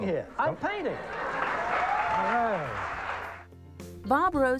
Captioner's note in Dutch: publiek lacht